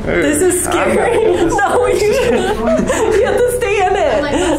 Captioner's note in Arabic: يضحك